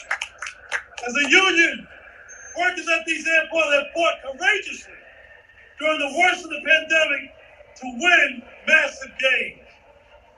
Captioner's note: applause